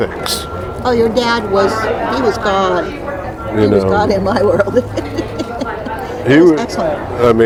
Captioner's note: laughing